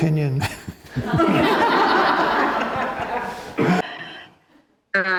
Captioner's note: audience laughs